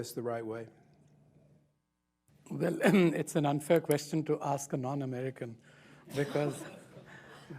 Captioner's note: scattered laughter